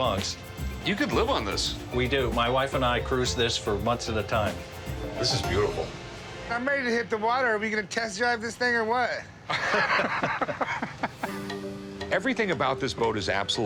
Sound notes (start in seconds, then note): 9.5 both chuckling